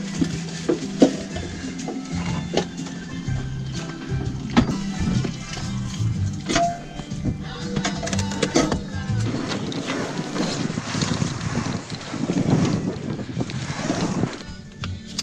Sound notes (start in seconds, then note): 0.2 bright music; 10.0 sail whizzing